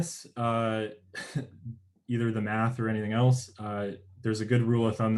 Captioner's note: chuckles